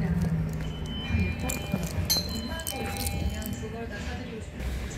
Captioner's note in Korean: 하차벨 소리